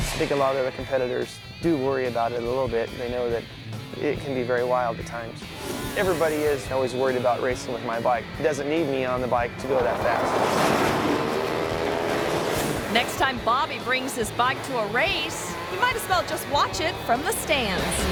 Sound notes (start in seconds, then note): 9.6 motorcycle crashing; 10.4 motorcycles revving